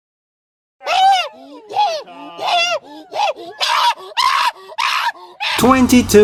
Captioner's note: le angry